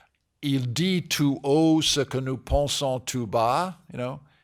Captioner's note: speaking french